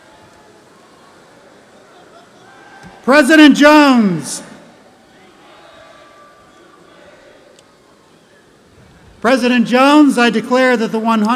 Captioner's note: applause